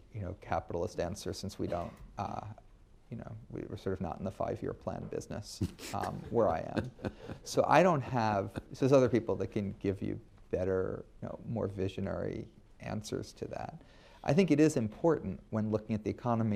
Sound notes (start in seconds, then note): 5.6 laughter